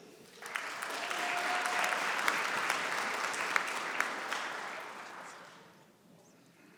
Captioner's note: applause